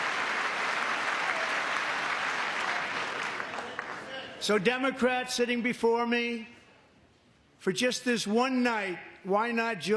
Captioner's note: cheering